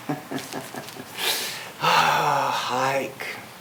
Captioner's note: chuckles